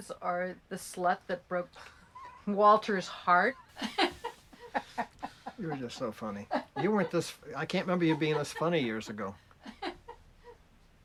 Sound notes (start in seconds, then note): 3.7 chortles; 5.2 laughing